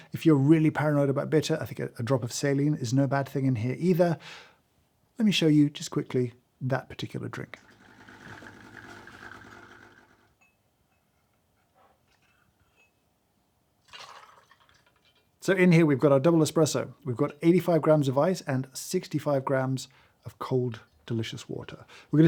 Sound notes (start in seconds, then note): 7.5 coffee machine burbling; 13.8 coffee trickling